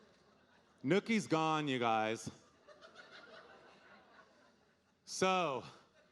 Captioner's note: audience laughing